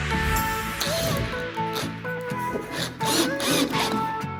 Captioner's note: drill whirs